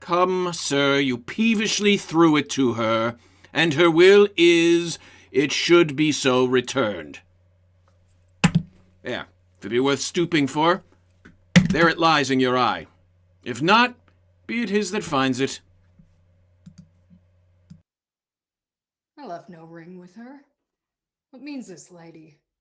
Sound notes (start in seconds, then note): 8.4 thud